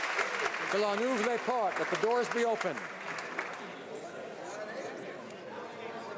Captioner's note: applause